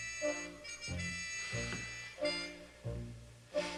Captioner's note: exhales